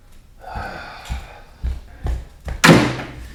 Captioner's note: Manny sighs